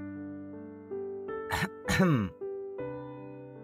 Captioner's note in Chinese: 清喉嚨